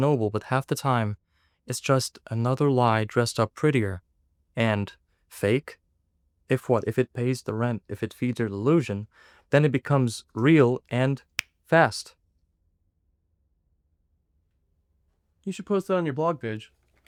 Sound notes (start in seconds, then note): 10.9 snapping sound; 16.8 clicking sound